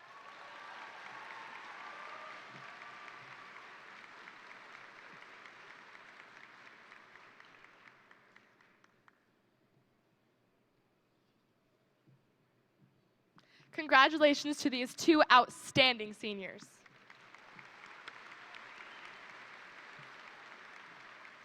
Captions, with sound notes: (crowd applauding) Congratulations to these two outstanding seniors. (crowd applauding)